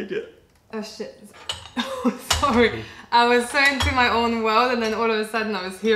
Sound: laughter

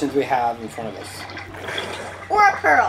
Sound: water splashing

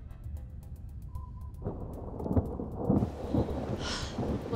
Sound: thunder storm

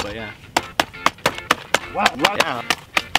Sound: axe hacking; upbeat music

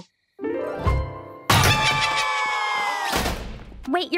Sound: screaming

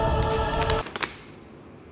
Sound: cards dropping

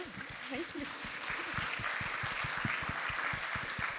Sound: applause

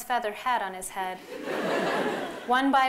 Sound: laughter

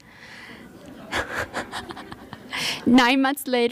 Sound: laughter

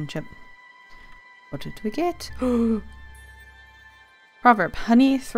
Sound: gasp

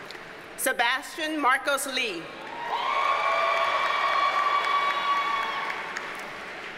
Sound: audience cheers and applauds

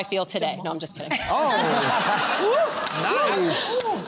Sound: laughter

